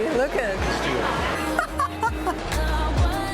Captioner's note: laughs